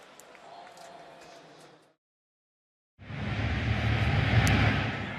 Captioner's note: pa announcement